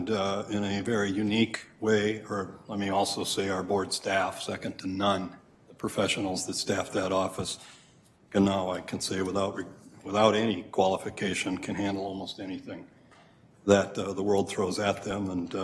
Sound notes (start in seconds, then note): none